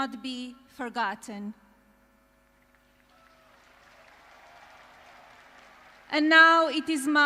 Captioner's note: applause